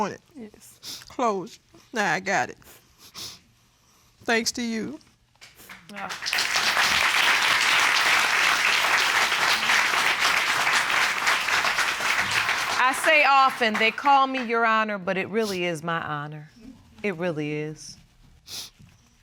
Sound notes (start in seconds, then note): 8.2 applause